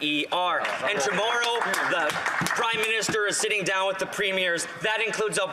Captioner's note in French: voix de l'interprète